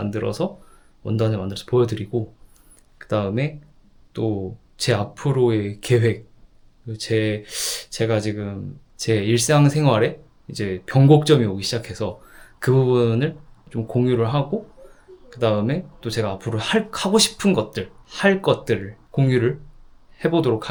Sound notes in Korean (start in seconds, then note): 7.6 콧방귀